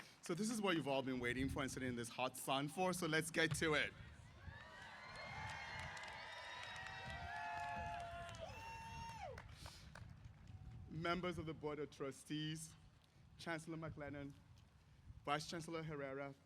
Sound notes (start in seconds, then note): 4.3 cheers